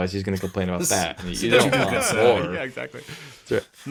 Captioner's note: all laughing